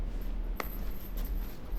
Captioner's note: light smack